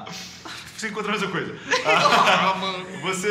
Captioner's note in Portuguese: Risadas